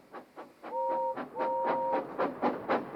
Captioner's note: toot toot